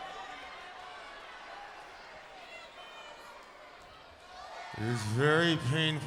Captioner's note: crowd chatter